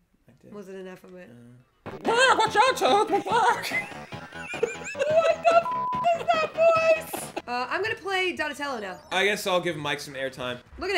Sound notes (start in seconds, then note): 1.7 chicken voice; 3.0 laughter